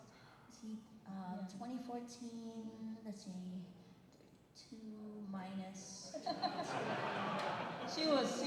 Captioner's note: laughter